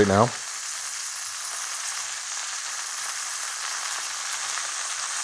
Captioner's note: meat sizzling